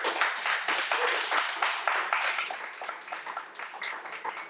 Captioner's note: crowd applauding